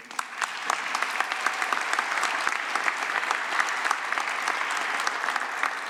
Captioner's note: applause